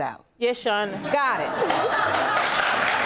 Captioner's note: all laugh